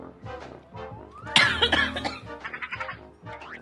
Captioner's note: coughs